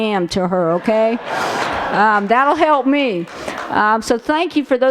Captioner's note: laughter